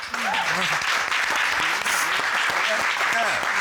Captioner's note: audience applauding